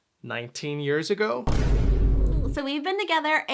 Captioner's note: bomb explodes